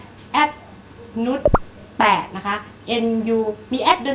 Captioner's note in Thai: none